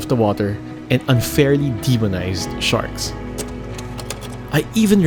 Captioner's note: image clicks